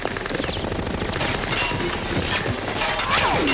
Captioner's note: gunfire